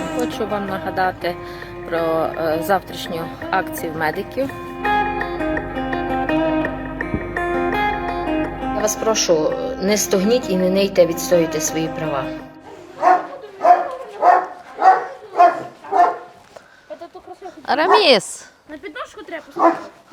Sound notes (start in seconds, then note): 15.8 dog barking; 18.6 kids chatting